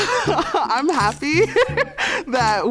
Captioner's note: laughs